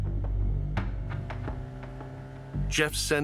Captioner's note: small boat motor hums